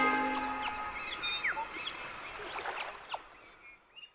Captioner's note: birds chirping